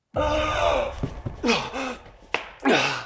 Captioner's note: Jacob groans; body thuds; Jacob groans; Jacob panting